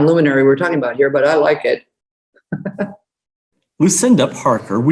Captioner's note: laughs